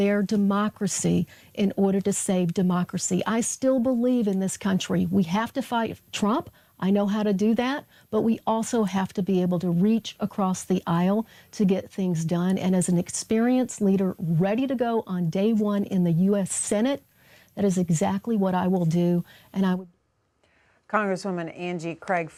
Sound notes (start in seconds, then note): none